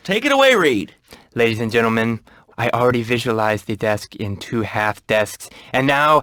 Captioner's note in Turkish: peltek konuşur